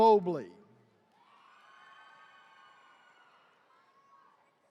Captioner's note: attendees cheering